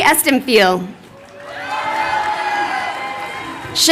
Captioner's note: crowd cheering